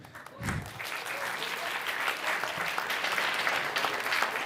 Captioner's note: applause